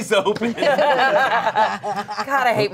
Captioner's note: everyone laughs